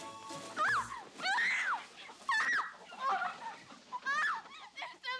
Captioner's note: Annabelle shrieking